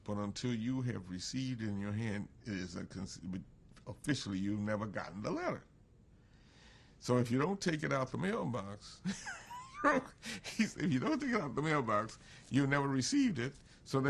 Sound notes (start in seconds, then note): 9.1 laughs